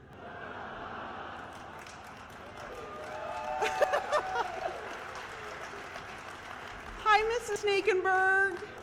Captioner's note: cheers